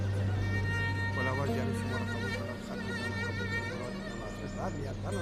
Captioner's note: people praying